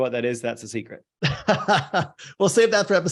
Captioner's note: laughs